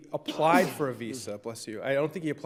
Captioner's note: justice sneezes